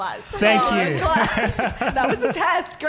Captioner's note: laughing